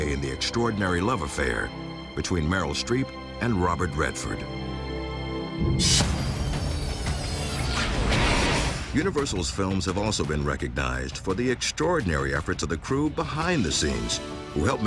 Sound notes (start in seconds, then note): 6.3 electronic buzzing